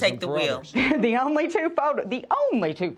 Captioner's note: chuckles